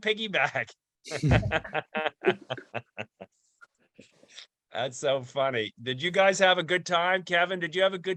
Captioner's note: laughter